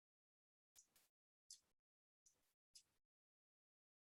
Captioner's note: mouse clicking